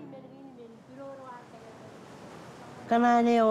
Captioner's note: speaks marshallese